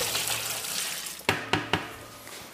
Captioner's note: tapping